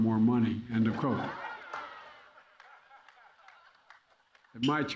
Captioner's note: laughter